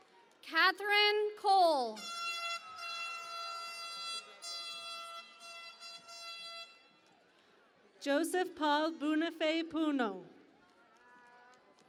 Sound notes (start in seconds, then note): 2.0 horn Blaring; 10.5 cheering and Applause